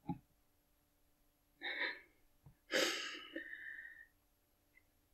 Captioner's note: laughing